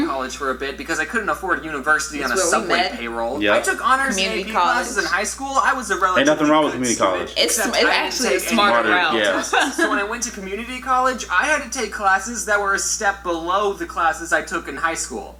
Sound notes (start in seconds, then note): 7.9 stutters; 9.8 laughs